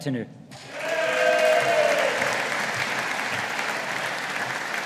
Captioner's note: audience applauding